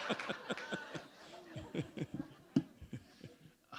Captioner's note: laughter